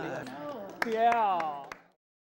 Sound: applause

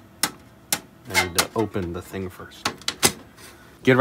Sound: latch noises

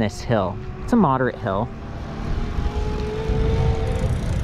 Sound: bicycle roaring

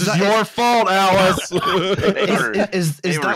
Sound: laughter

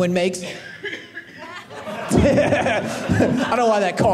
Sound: cough by audience member

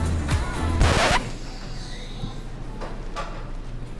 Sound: record scratch

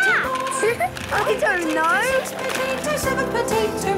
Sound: laughing

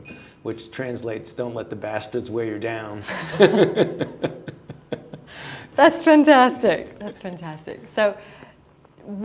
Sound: laughter

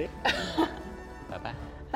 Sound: laughs

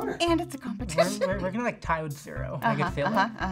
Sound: laughs

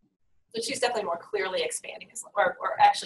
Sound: voiceover

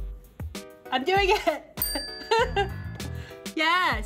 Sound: bell chimes

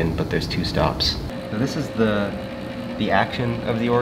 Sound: organ whirring

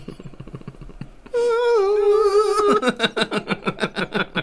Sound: really Good Dog Impersonation

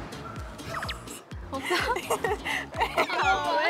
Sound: tee hee

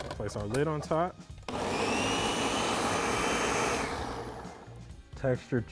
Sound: blender whirring

